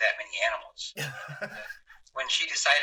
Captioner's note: laughs